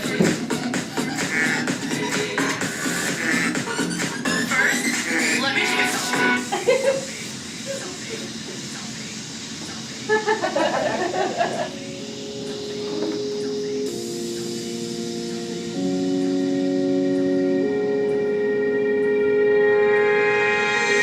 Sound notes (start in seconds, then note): 10.1 audience laughing; 18.1 dramatic music